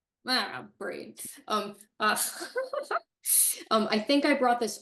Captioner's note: chuckles